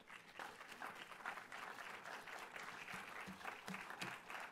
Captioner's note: audience applauding